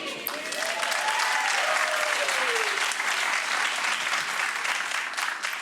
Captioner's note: audience woots and claps